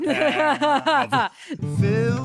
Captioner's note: laughing